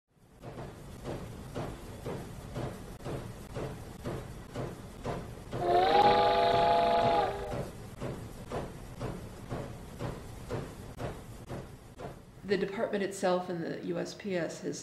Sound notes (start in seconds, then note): 0.2 train sounds